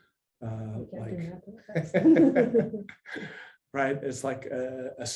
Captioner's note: laughter